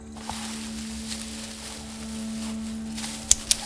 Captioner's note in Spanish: hojas crujiendo